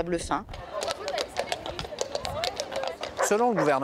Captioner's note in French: claquement de sabots